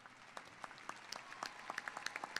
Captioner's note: applause